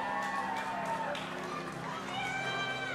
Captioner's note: audience applauding and cheering